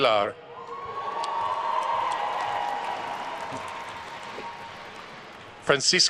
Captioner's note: attendees cheering and applauding